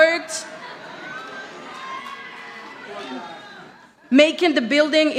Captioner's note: audience chattering